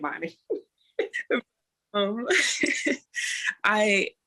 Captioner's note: laughter